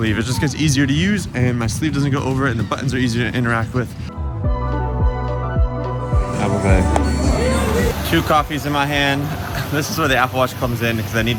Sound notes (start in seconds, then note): 4.1 upbeat music playing; 7.3 machine beeps